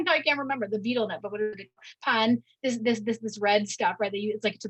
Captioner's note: audio distortion